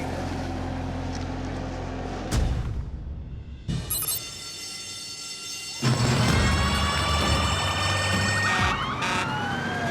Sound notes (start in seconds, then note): 3.9 alarm ringing; 6.1 sirens wailing; 8.2 horns blaring